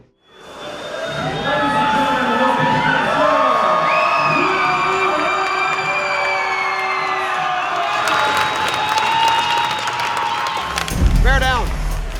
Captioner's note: crowd Cheering